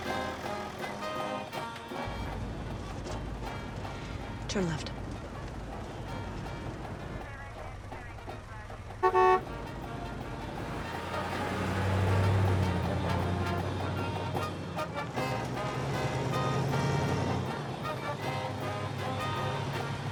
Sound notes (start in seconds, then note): 7.1 brakes and tires squeal; 15.7 police siren